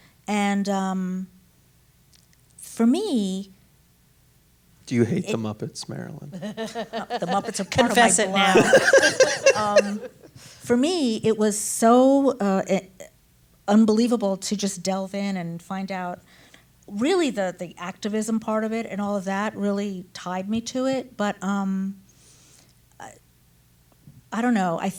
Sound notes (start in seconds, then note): 6.4 laughs; 9.2 all laugh